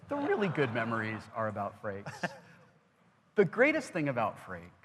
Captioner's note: laughs